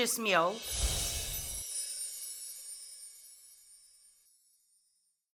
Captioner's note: screen swoosh and chime